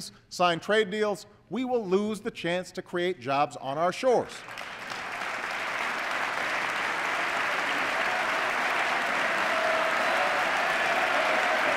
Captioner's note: applause